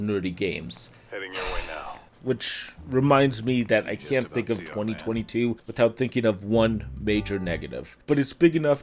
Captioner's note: sigh